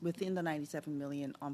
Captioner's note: speaking French